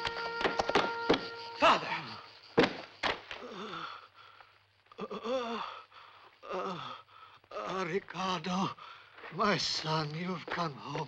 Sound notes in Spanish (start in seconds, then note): 3.4 se queja